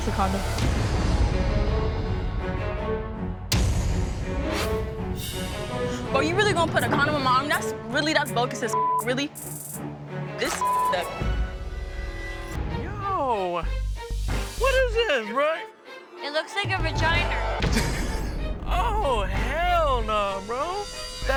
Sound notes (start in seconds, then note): 1.5 tense music; 8.5 beep; 10.5 beep; 17.3 laughs